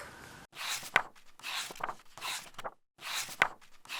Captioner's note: pages turning